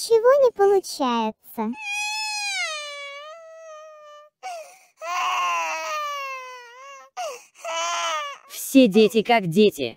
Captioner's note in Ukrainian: плаче